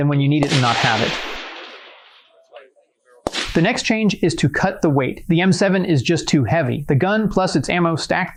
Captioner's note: gunshots